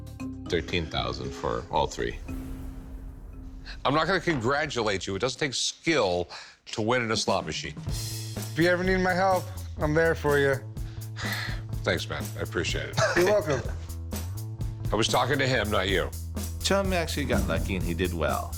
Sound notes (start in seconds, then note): 11.1 sighs; 12.9 laughs